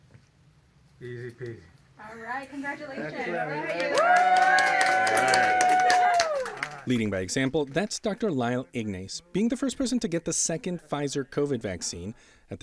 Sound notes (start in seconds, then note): 3.4 everyone cheering